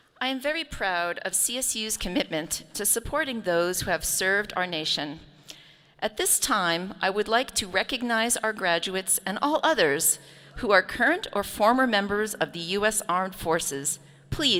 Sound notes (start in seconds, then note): none